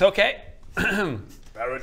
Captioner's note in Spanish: se aclara la garganta